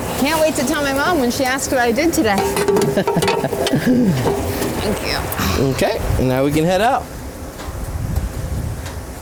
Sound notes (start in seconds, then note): 2.4 can rattles; 2.9 chuckles